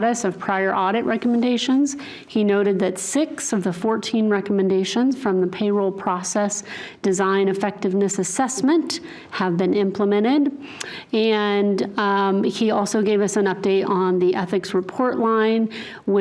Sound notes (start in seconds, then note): none